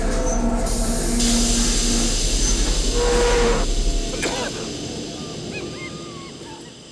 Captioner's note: tense music; hissing